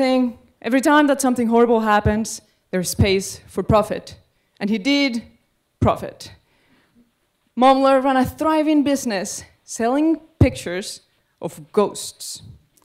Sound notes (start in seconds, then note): none